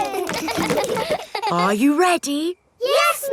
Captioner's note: kids laughing